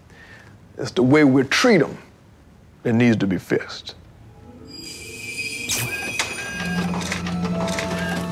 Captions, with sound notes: It's the way we treat 'em, that needs to be fixed. (magical chiming) (copy machine whirring)